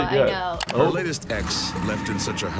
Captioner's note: computer mouse clicks